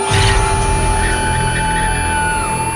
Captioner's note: screaming